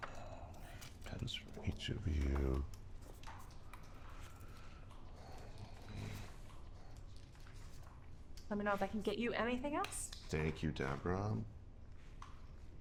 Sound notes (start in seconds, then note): 3.5 Maxwell inhales and exhales